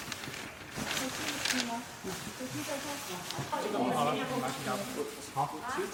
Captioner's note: speaking in foreign language